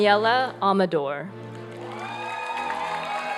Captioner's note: applause and cheering